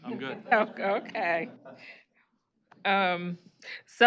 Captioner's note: laughter